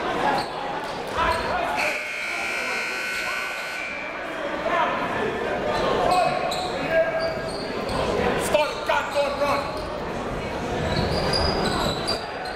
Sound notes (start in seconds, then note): 1.8 buzzer goes off; 4.3 coaches yelling; 4.3 crowd talking